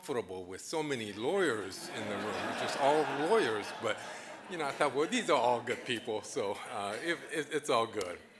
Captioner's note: audience laughing